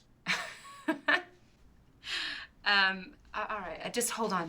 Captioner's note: laughing